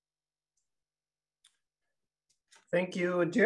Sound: mouse clicking

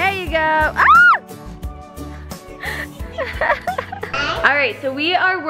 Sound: screaming and laughing

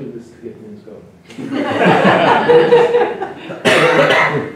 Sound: laughter

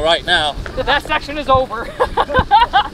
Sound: laughs

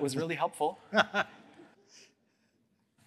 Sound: laughter

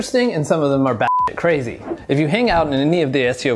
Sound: beep

